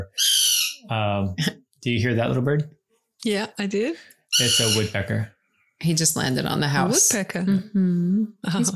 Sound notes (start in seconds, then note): 0.1 bird makes shrill noise; 4.3 bird continues to squawk